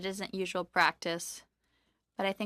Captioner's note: speaking French